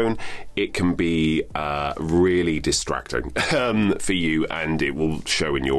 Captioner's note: chuckles